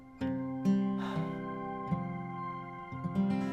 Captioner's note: exhales